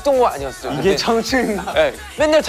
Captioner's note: haha